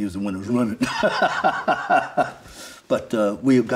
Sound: laughing

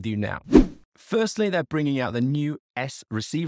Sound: swooping transition

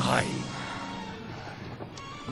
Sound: gasp!

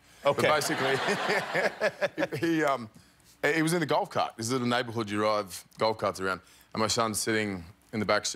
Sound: laughter

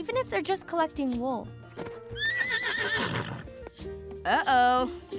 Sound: whinny

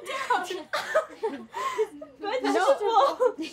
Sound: laughter

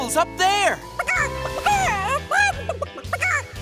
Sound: clucking

